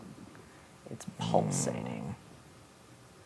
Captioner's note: grumbles